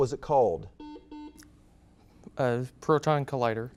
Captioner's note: buzzer beeps